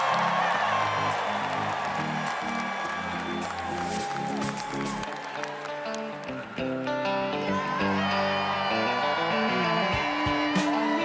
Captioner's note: cheers and applause